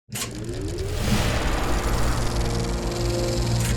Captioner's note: film projector spinning